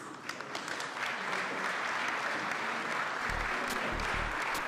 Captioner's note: applause